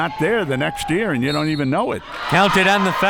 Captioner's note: whistle